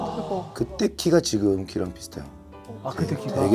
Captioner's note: haha